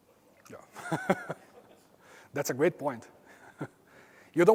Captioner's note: laugh